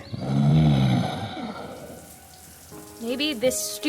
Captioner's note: Lumber Axe groaning